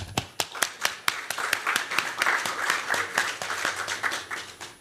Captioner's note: applause